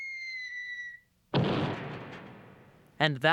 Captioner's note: crash